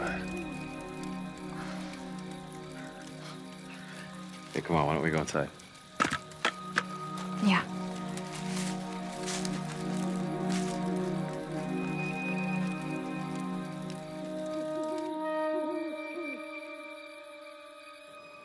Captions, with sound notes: Hey, come on. Why don't we go inside? Yeah. [owl hooting]